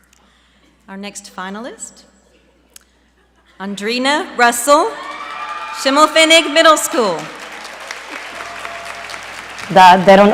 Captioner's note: applause